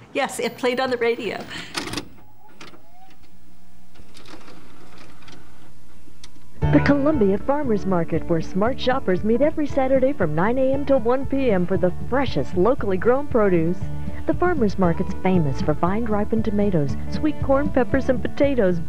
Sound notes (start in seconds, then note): 1.1 VHS Tape Playing